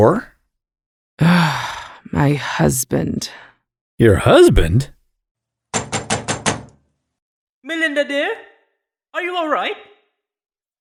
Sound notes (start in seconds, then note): 5.7 louder knocking